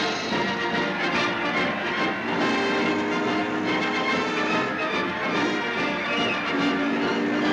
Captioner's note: dramatic music; people cheering